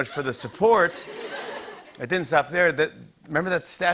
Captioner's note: laughter